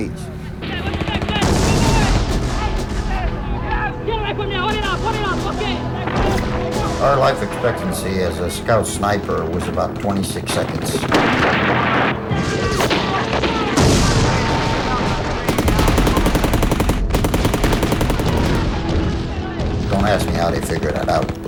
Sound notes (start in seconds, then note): 0.6 shooting; 3.0 foreign language; 13.8 gunfire